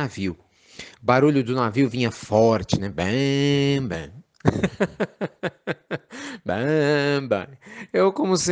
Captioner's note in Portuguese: Risos